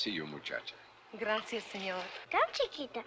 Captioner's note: in spanish